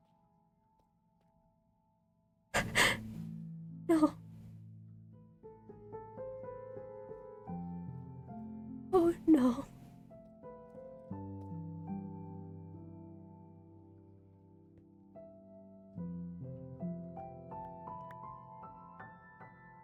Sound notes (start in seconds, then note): 2.6 gasps